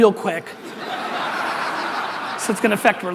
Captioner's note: audience laughter